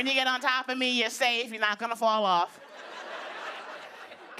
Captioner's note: laughter